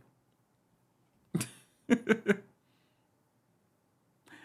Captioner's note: laughs